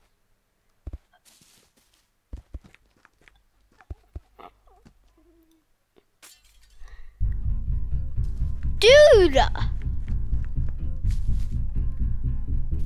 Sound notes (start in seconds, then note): 6.2 glass breaking sound; 6.9 suspenseful music